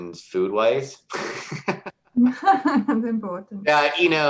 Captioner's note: laughter